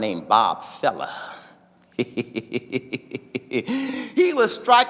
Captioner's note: laughing